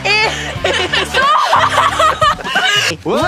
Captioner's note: cries out